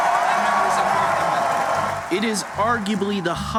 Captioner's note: cheering and applause